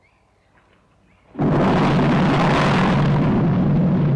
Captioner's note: explosion